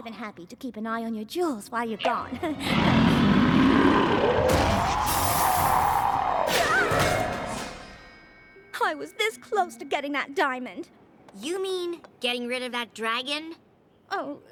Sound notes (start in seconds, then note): 3.9 roars